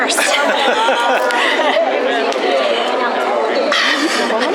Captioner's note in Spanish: Risas